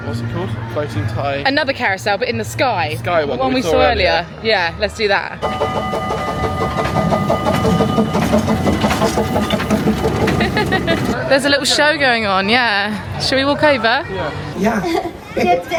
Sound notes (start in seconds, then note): 5.4 train bell ringing; 7.2 train engine rumbling; 10.1 giggling